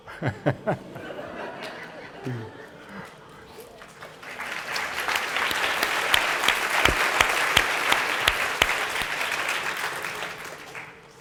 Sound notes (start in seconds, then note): 0.0 laughter; 3.4 applause